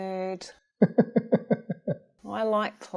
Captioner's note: laughing